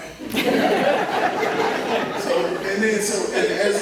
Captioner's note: laugher